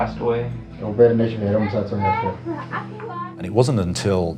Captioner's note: speaking in foreign language